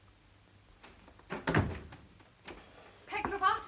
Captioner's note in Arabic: يغلق الباب